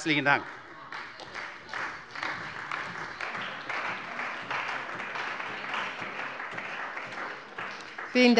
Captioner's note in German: Beifall bei der CDU